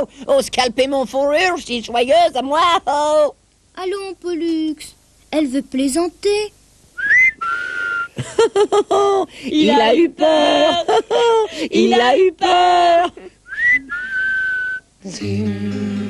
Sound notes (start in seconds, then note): 7.1 ils sifflent et rigolent; 10.1 ils rigolent; 13.4 ils sifflent